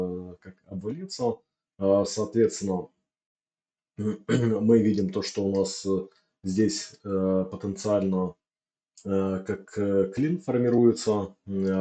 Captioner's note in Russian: откашливается